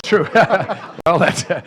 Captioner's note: laughter